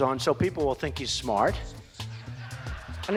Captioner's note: laughter